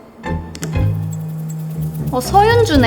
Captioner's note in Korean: 진동